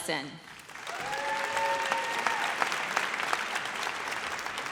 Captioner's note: audience cheers